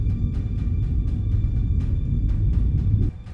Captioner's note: low hum